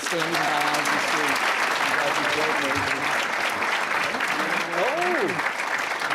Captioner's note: applause